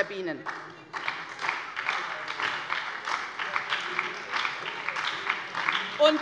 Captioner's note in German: Beifall bei der SPD